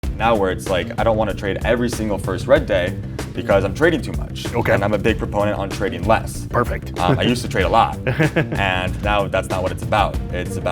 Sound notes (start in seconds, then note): 8.0 laughter